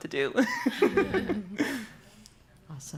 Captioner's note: laughs